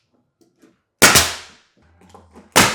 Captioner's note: nail gun popping